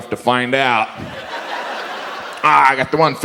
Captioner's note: audience laughs